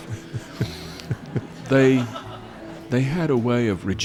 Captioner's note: laughing